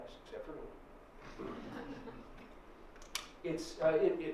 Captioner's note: laughter